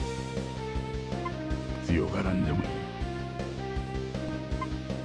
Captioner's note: geese